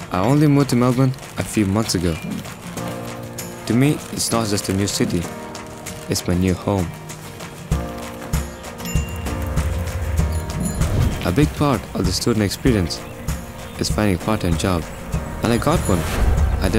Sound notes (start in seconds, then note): 8.8 bicycle bell dings